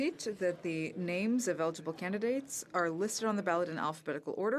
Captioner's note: speaking french